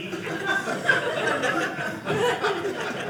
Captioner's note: audience laughing